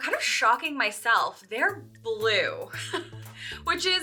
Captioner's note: laughs